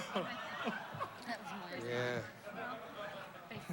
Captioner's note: mumbling